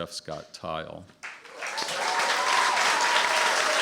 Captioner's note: applause